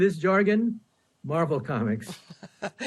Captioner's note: laughter